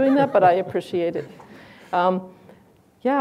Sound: laughs

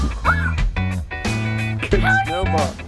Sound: squeals

